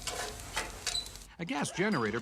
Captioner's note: fire crackles